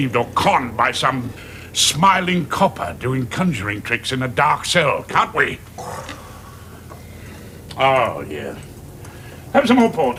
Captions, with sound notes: or conned by some smiling copper doing conjuring tricks in a dark cell, can't we? (George sighs) Ah, yeah. Have some more port.